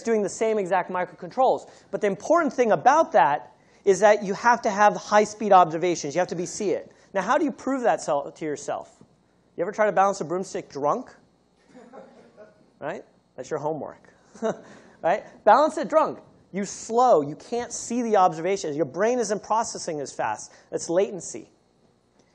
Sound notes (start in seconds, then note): 11.6 laughter